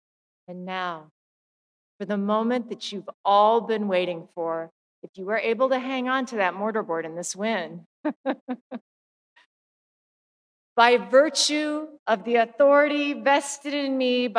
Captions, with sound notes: And now, for the moment that you've all been waiting for, if you were able to hang onto your mortar board in this wind (chuckles) by virtue of the authority vested in me